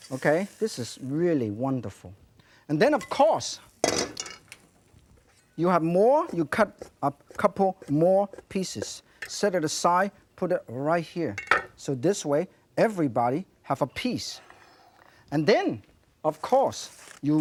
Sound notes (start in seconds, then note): none